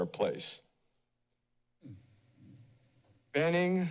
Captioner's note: pause